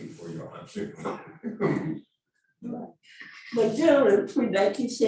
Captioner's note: laughing